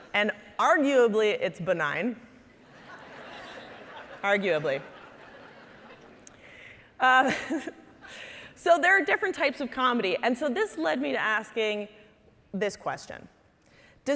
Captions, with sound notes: and arguably it's benign, arguably. (audience laughing) So there are different types of comedy. And so this led me to asking this question,